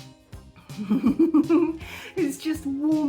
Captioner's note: chuckle